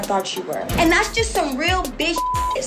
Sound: beep

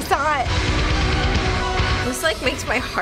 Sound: jittery metal

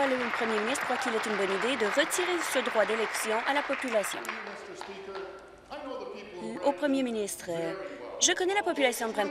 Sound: applause

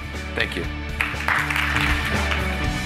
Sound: applause; upbeat music

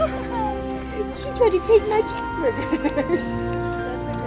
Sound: laughter

